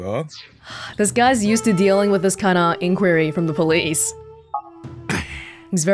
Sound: exhales

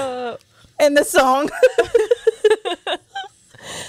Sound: laughs

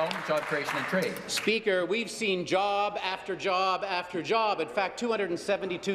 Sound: applause

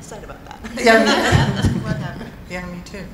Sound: laughing

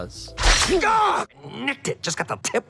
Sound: snikt; canadian screaming

